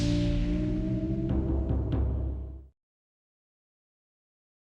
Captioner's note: logo jingles; logo knocks